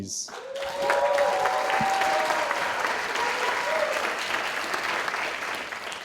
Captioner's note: audience cheering and applauding